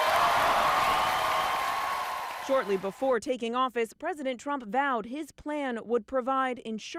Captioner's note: cheers and applause